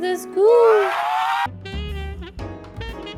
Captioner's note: demonic scream; upbeat jazz music